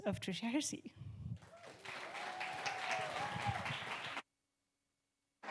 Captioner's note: audience clapping